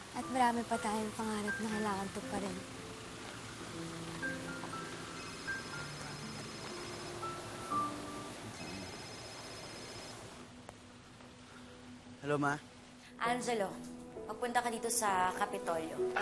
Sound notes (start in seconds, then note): 5.2 phone rings; 8.8 phone ringing